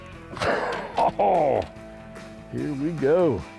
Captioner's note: laughs